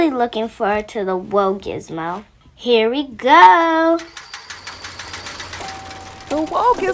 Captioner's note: Sounds of Whoa Gizmo coming to life